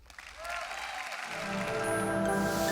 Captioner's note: audience applauds; calm music